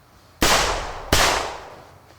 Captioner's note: gunshots